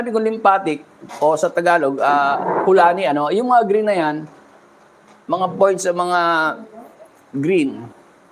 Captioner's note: none